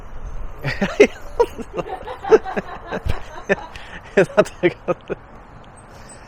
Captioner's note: lauging